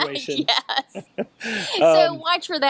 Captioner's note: both laughing